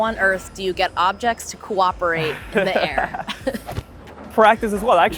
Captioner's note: both laugh